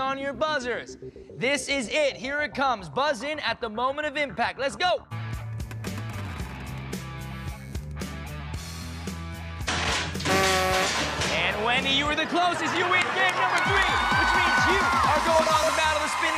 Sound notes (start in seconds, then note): 10.1 horn buzzes